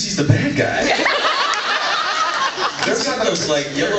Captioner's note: laughs